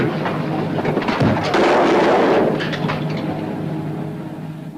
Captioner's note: gun firing; gun firing